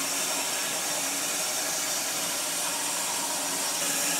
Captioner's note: saw whirring